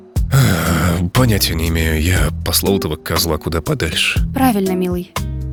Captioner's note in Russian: тяжело вздыхает